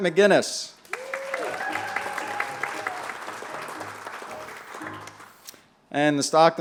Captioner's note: applause